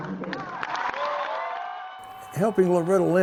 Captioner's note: applause